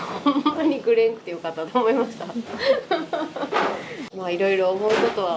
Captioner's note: laughs